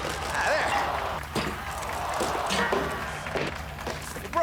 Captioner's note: crowd gasping and cheering